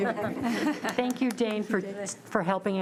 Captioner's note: giggling